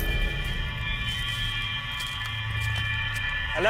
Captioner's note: Rustle of the leaves